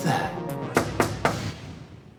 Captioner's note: knocking